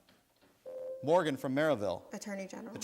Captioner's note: buzzer sounds